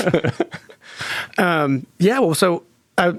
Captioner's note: participants laughing